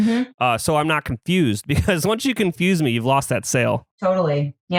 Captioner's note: laughs